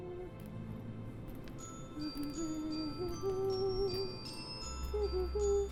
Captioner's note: bells tinkling